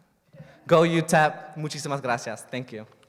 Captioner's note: spanish